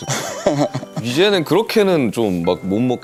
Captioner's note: haha